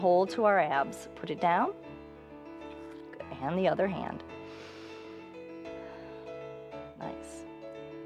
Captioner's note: inhales and exhales